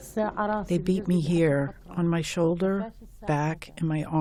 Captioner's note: through translator